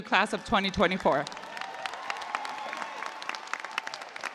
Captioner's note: cheers and applause